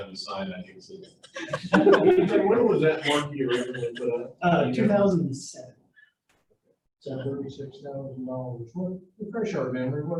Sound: laughing

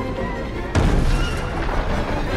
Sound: banging

